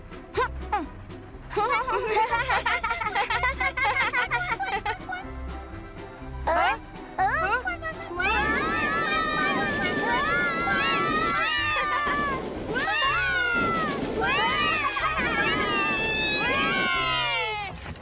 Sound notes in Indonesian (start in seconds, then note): 1.9 terkekeh; 11.1 berteriak